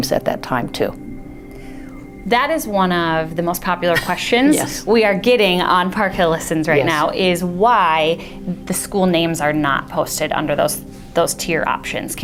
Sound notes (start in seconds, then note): 3.9 laughter